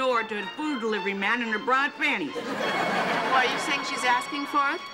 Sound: audience laughing

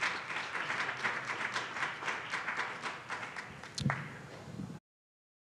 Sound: audience applauds

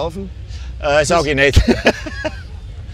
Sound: laughs

